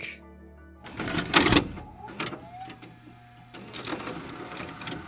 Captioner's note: cassette tape clicking